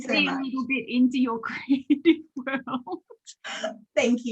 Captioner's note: laughs